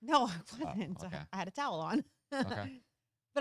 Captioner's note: chuckles